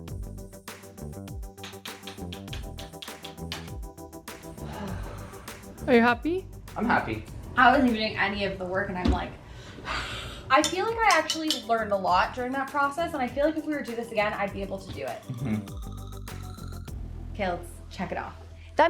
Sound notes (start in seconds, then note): 1.8 tool tapping; 4.6 sighing; 10.0 sighs